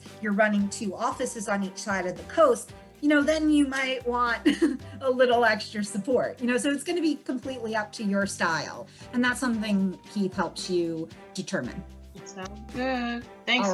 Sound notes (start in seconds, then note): 4.6 laughs